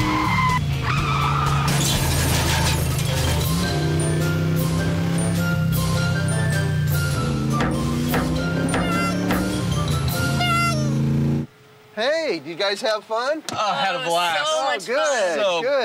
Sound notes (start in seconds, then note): 1.2 comical car crash noises; 3.2 circus music; 8.4 clown squeaking